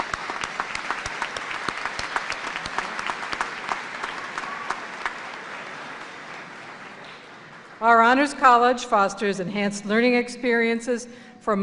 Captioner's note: applause